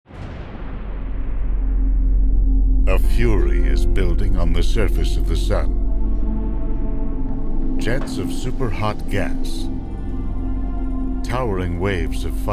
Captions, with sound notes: - [Voiceover] A fury is building on the surface of the sun. Jets of super hot gas, towering waves of fire,